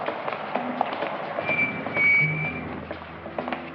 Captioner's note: brakes squeaking